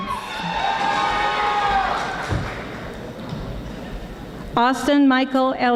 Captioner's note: audience applauding